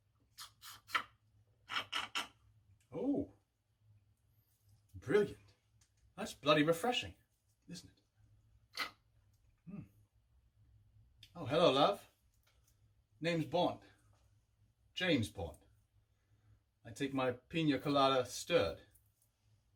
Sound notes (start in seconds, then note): 1.7 slurping drink; 8.7 slurping